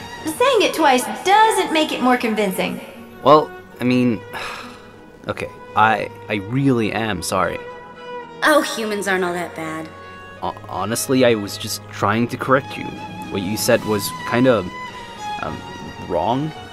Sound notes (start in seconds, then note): 4.3 sigh